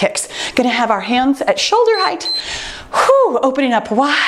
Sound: timer beeps

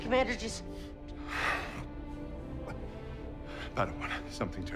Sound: strained breathing

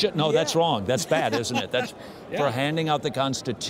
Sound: laughs

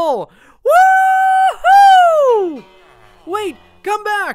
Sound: cheers

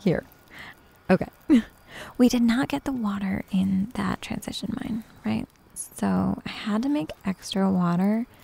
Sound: giggles

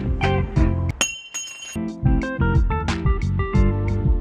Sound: metal clangs

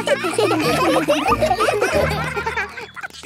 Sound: children laughing

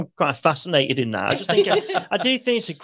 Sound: laughs

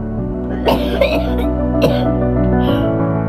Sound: coughing; gasping

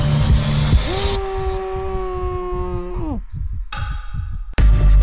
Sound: screaming

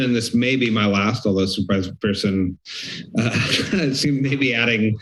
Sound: laughs

